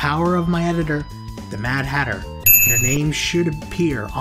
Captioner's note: ding